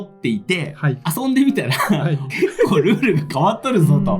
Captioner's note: laughs